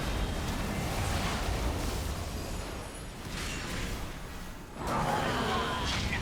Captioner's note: growling